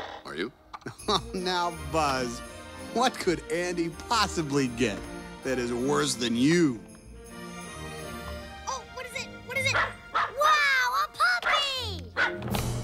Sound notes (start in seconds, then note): 0.8 chuckles; 9.6 puppy barking